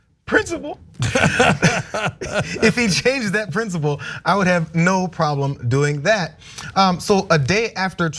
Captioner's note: laugh